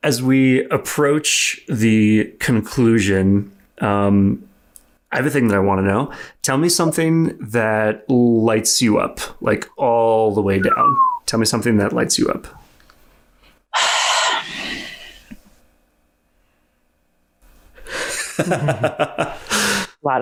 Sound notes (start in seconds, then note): 10.6 whistles; 13.7 sighs; 17.9 laughs